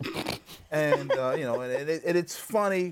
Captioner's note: laughs